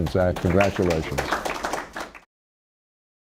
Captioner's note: applauding